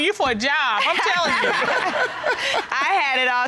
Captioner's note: laughs